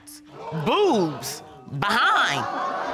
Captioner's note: audience exclaims